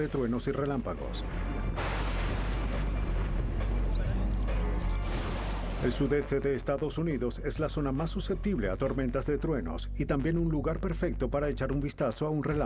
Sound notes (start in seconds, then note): 1.6 trueno